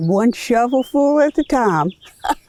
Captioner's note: laughs